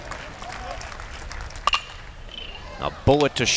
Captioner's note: bat hits ball